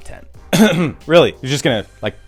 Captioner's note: coughs